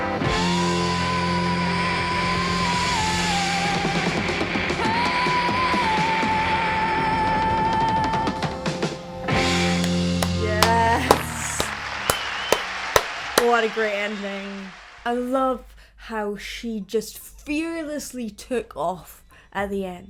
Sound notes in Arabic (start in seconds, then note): 10.2 تصفيق الجمهور; 10.2 تصفيق